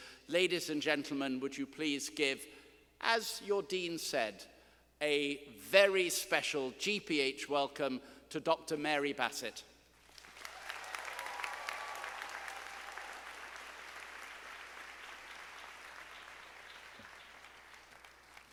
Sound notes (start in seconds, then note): 10.0 students applauding